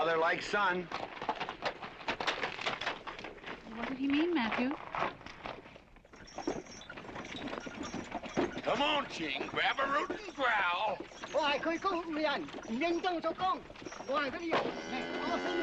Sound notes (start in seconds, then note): 11.7 ching speaking chinese